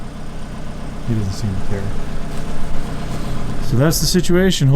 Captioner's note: car engines rumbling